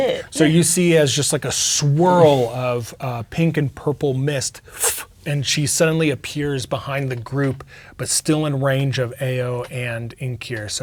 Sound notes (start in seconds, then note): 2.2 inhales